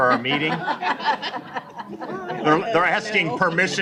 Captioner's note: laughter